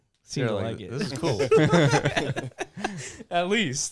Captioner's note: laughter